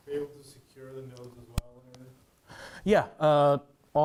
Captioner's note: man speaks faintly